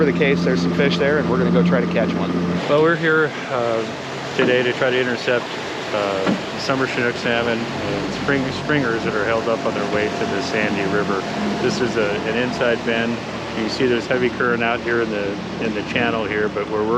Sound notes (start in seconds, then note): 3.0 boat engine running